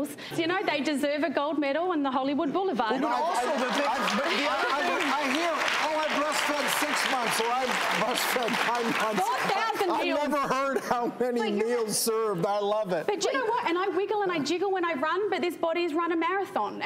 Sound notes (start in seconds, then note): 3.0 audience applauding